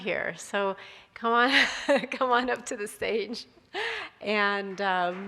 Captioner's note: chuckles; audience applauding